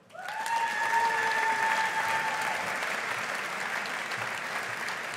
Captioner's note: audience applauding